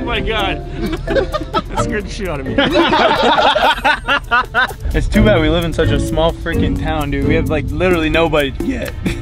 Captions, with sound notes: - Oh my god! That scared the shit outta me. (laughing) - It's too bad we live in such a small frickin' town dude, we have like literally nobody to get.